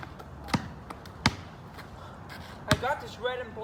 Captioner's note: pelota rebotando